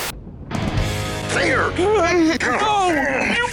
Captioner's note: all grunting